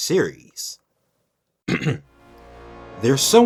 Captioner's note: clears throat